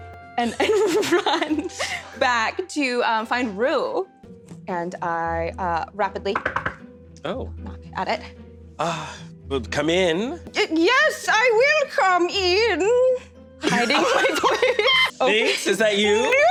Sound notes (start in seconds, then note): 0.6 laughs; 6.3 knocks on table